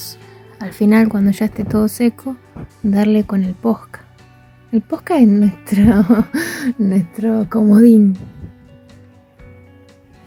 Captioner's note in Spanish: risas